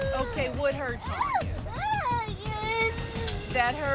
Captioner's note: crying